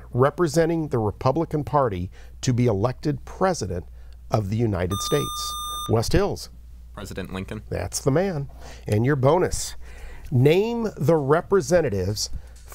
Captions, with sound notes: representing the Republican Party to be elected president of the United States. [Buzzer] West Hills. President Lincoln. That's the man. And your bonus, name the representatives